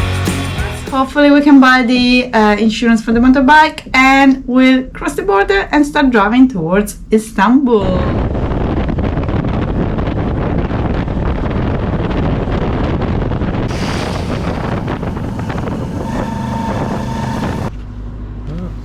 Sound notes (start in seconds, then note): 8.0 motorbike noise